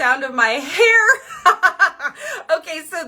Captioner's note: laughing